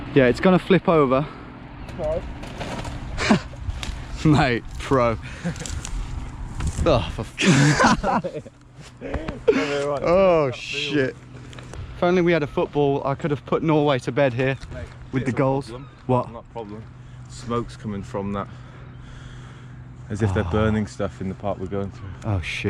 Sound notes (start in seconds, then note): 5.1 chuckles; 7.3 both laugh